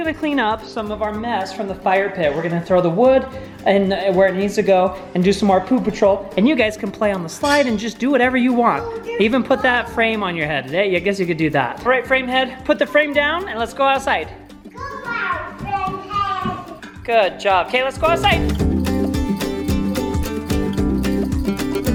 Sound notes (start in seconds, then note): 8.8 children chattering; 18.7 happy guitar music